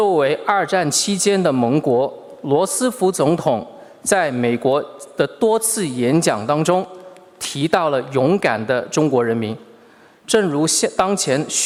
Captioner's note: speaking Mandarin Chinese